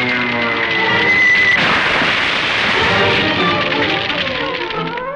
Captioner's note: explosion banging; dramatic orchestral music